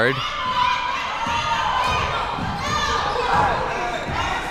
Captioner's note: spectators shouting